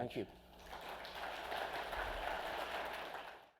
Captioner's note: audience clapping